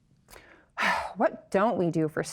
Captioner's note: sighs